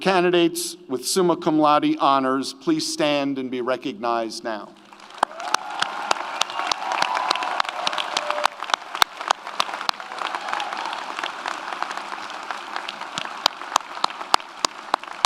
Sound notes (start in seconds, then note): 4.8 audience applauds; 4.9 audience cheers